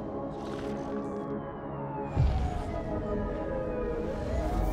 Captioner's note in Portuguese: sirene ecoando